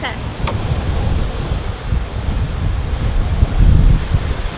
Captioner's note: wind rushing